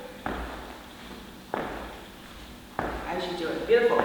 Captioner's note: feet tapping